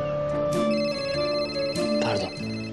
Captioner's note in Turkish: Telefon çalar